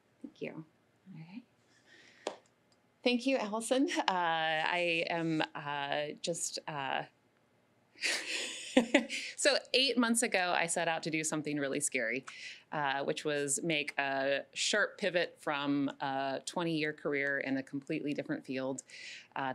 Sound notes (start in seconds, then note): 8.0 laughing